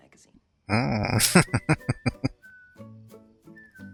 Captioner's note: laughing